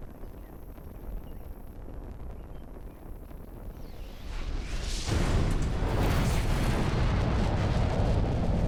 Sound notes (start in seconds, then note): 4.0 explosion